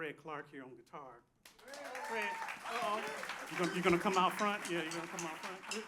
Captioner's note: applause